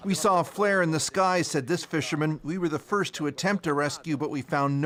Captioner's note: speaking alternate language